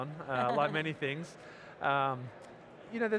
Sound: laughing

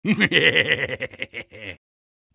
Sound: soldier laughing

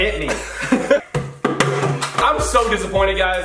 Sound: both laugh; tube thumps

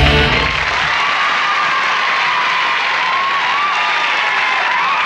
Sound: applause

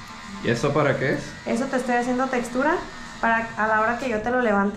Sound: speaking in Spanish

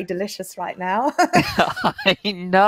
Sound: laughing

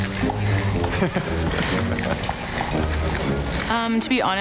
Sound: laughs

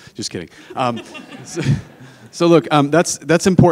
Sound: audience laughing

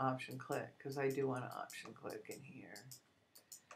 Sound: clicking

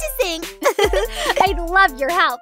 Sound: both giggle

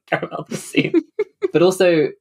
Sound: laughs

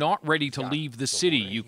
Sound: speaking alternate language

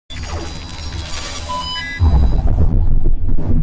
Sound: glitchy sound effects

